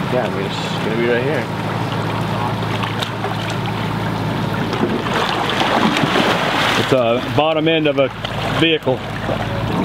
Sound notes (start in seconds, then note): 5.7 water splashing